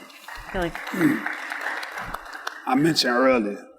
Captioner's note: audience applauds